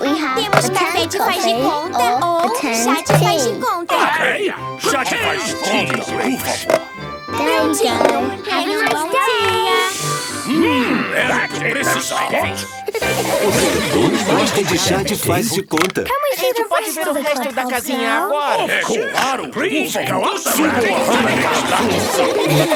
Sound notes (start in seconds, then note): 10.2 slurping; 13.1 giggling